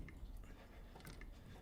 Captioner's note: tools clacking